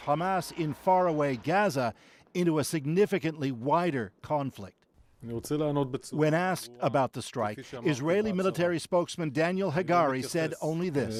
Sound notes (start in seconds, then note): 6.8 speaking alternate language